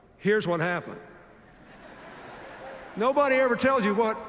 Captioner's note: laughter